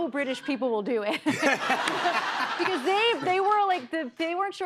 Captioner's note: laughter